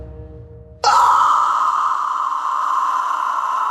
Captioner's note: Toph screams loudly